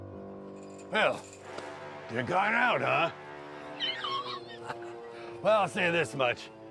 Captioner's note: laughs